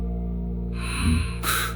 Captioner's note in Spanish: resoplido